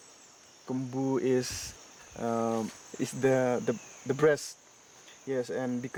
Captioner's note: speaks in foreign language